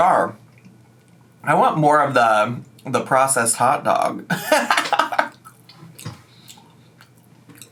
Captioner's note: laughing